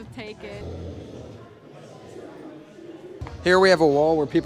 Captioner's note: loud snoring